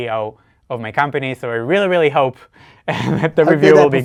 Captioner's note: chuckles